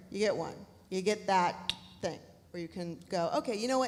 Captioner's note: tongue clicks